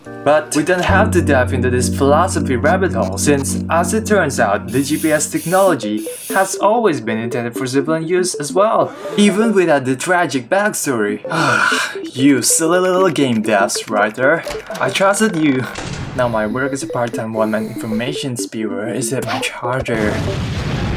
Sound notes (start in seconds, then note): 11.3 Krimeon sighs